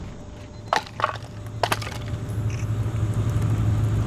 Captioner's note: beeping; wood clanking